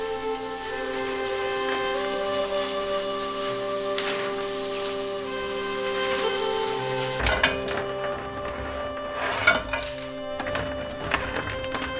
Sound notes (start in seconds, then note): 0.1 water burbling; 7.0 oyster shells clattering